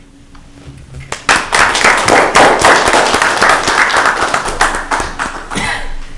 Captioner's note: applause